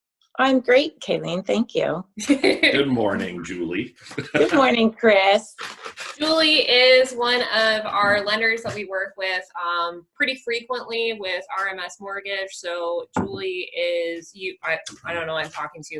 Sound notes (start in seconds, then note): 2.2 laughter